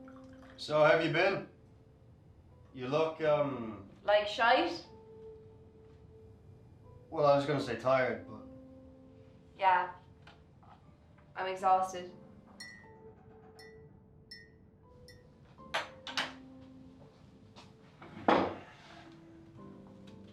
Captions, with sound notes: So, how've ya been? You look, um... Like shite? Well, I was gonna say tired but... Yeah. I'm exhausted. [Spoon banging off cup] [metal on metal, spoon on draining board] [chair banging off stone floor]